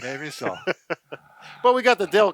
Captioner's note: laughing